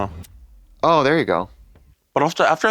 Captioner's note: crack pipe sparks